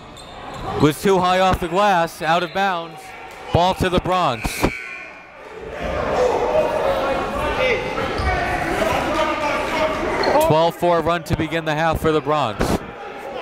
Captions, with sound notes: Was too high off the glass, out of bounds. Ball to the Bronx. (buzzer dings) (gymnasium bustles) 12-4 run to begin the half for the Bronx.